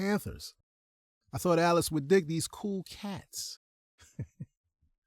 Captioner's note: chuckles